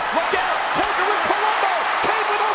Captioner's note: overlapping chatter; crowd cheering